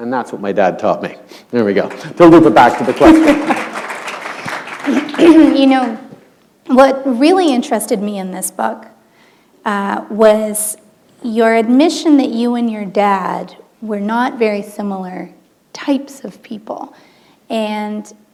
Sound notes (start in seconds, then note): 4.0 chuckle